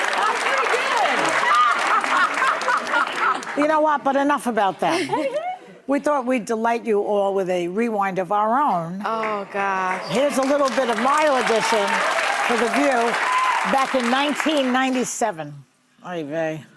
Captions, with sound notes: (audience applauding) How's it going? (audience laughing) You know what, but enough about that. We thought we'd delight you all with a rewind of our own. Oh, God. Here's a little bit of my audition for The View back in 1997.